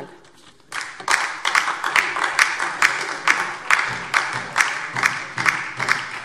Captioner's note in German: Beifall DIE LINKE und vereinzelt SPD